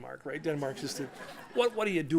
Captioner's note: laughter